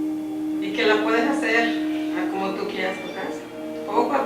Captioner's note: speaking Spanish